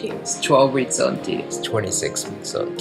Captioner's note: lower voice